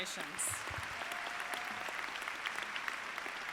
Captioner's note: applause